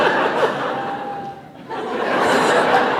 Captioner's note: laughter